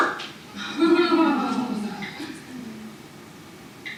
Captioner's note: teacher laughs